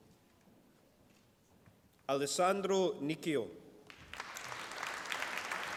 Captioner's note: applause